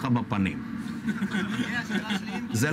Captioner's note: laughs